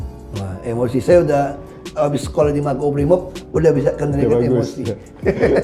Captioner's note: laughing